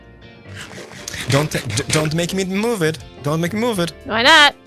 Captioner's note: stammers